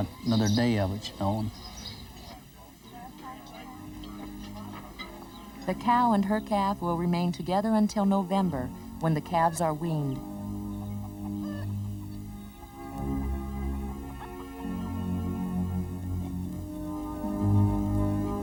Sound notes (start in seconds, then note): 12.8 clucking